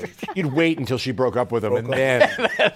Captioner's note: laughs